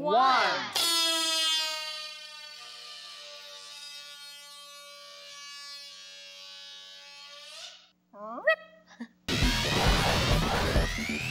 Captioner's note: balloon Squealing